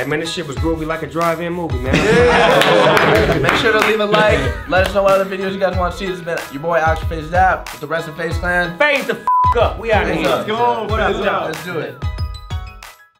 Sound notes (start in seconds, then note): 2.4 all clap; 9.2 beep